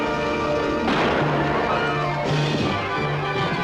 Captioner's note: gunshot